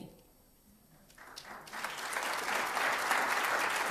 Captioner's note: applause